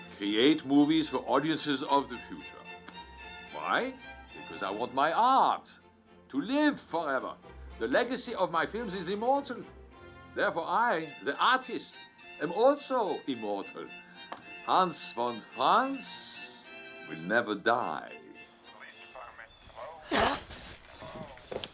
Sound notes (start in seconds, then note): 18.8 on phone; 19.7 bucky gasps; 20.9 on phone; 21.5 lighter clicking